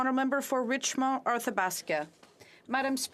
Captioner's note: speaking French